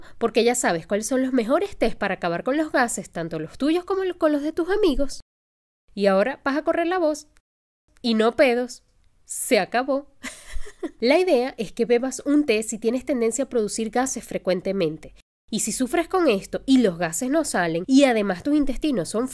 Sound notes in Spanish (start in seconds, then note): 10.2 risas